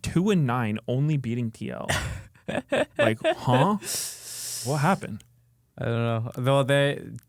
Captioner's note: laughs